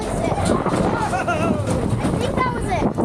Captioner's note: dad laughing